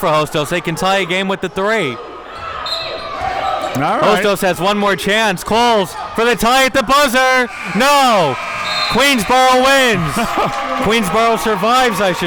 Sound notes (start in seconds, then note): 7.5 whistle blows; 7.6 buzzer blares; 10.2 audience cheering